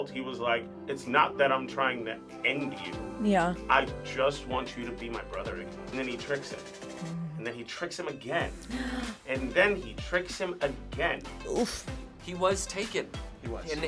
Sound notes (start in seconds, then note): 8.6 React gasps